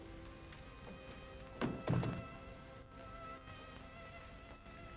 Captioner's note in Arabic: موسيقى ناعمة مخيفة; يغلق الباب; موسيقى ناعمة مخيفة